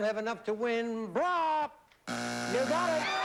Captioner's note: buzzer